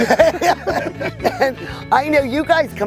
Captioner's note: laughing